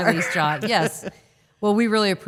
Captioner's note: laughing